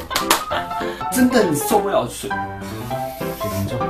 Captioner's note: hhhh